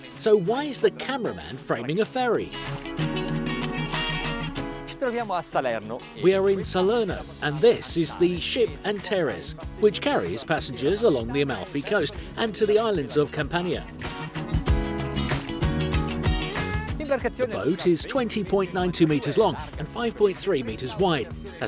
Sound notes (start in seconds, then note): 5.3 speaking foreign language; 14.8 upbeat music